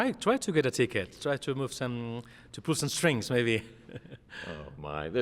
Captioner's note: chuckles